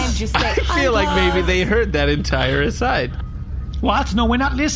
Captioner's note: laughing